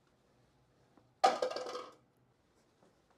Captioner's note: clattering